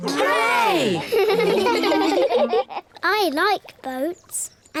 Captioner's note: giggle